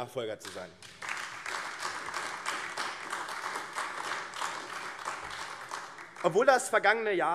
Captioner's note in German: Beifall AfD